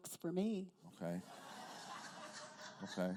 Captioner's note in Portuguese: risos da plateia